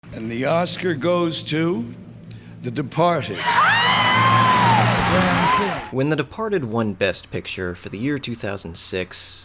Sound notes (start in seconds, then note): 3.3 cheering, applause